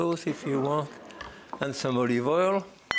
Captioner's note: audience exclaims